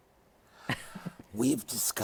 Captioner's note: chuckles